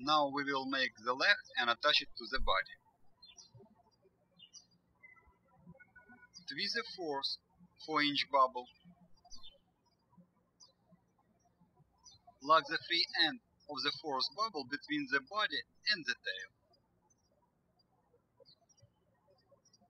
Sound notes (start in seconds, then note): 4.1 birds chirping; 10.6 birds chirping; 17.5 birds chirping